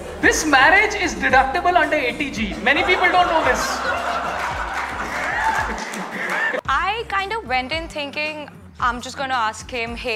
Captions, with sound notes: This marriage is deductible under 80G... Many people don't know this! [laughter] I kinda went in thinking I'm just going to ask him: